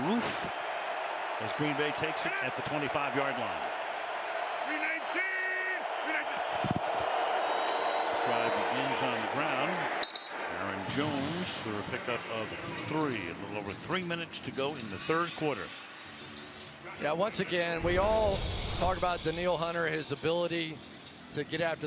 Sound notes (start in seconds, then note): 10.0 whistle